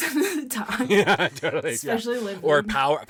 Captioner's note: laughing